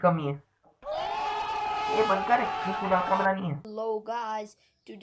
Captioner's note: OHHH sound effect